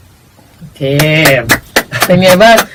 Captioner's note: clapping